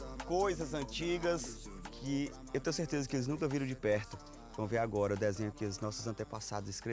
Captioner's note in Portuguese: none